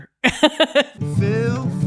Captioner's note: laughing